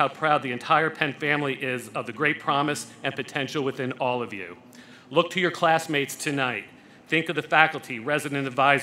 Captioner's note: none